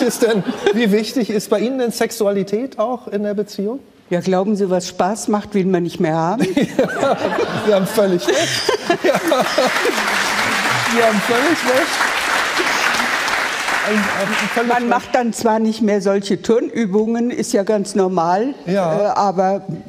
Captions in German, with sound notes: Wie wichtig ist denn, wie wichtig ist bei Ihnen denn Sexualität auch in der Beziehung? Ja, glauben Sie, was Spaß macht, will man nicht mehr haben? (Lachen) Da haben Sie völlig recht. Sie haben völlig recht. Man macht dann zwar nicht mehr solche Turnübungen, ist ja ganz normal, aber ...